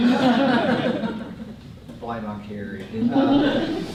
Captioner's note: laughter